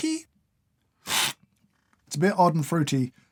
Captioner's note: slurp